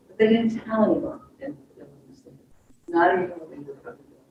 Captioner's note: speaks faintly